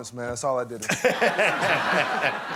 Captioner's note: laughter